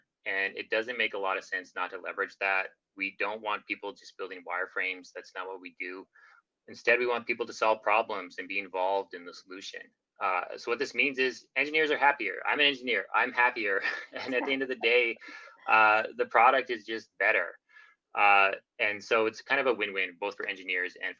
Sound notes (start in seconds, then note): 13.7 laughing